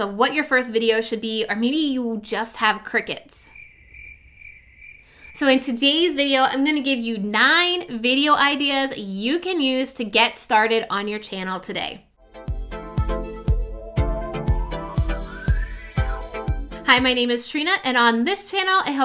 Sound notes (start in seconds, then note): 3.4 crickets chirping; 12.2 upbeat music